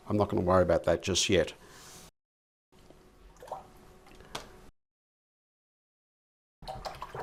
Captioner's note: silence